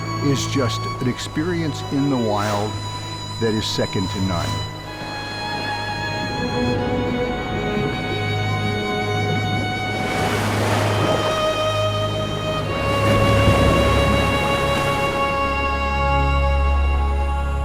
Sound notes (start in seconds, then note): 5.4 somber music; 10.5 splashing